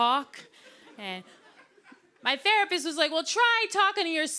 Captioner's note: laughter